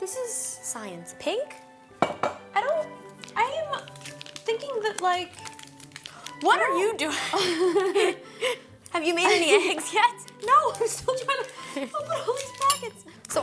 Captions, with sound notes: - This is science, pink, I don't, I'm thinking that like-- - What are you doing? (both laugh) Have you made any eggs yet? - No, I'm still trying to open all these packets.